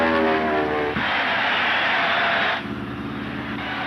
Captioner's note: audience cheering; plane engines rumbling